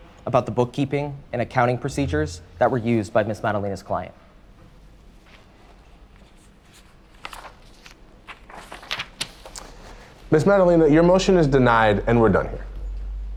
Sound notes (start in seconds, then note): 7.2 papers rustling